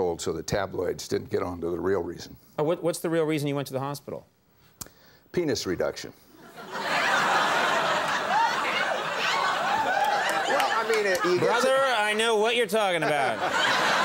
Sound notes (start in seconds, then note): 6.4 audience laughing; 6.7 women whoop